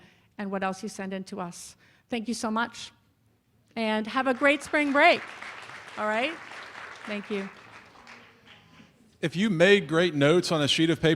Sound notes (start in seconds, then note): 6.0 applause